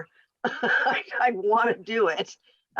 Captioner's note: laughs